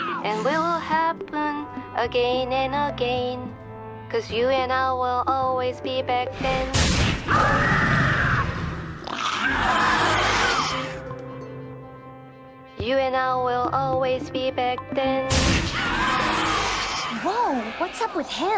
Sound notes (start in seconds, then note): 9.1 screeeech